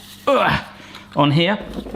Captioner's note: grunts